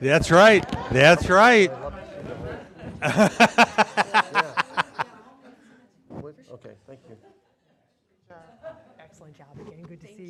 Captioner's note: laughter